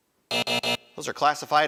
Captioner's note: alarm buzzes